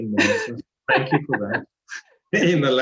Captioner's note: laughing